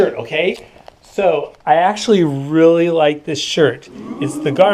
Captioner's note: people saying, "ooh"